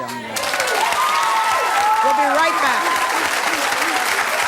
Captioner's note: cheers and applause